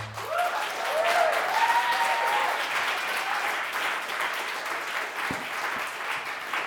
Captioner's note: audience cheering and applauding